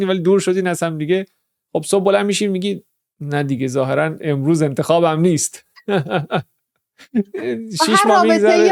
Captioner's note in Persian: خنده